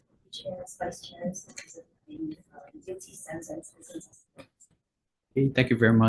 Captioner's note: faintly speaking